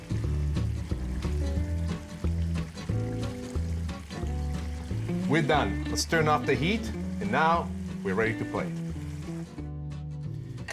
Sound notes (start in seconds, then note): 0.2 smooth jazz music; 3.2 food sizzles in pan